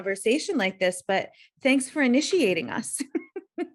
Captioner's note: laughs